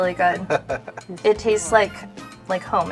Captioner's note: chuckles